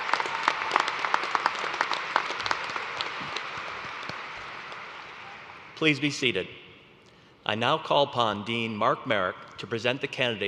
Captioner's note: applause